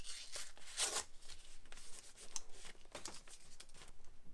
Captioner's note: paper tearing